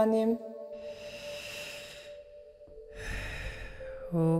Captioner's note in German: Seufzt